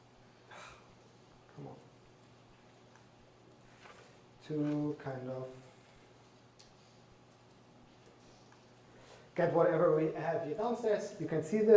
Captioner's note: sighs